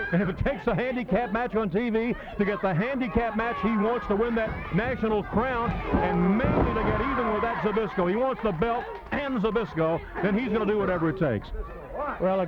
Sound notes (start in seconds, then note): 4.0 body thudding; 5.1 blows thudding